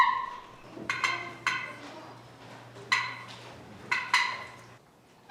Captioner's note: box call clucks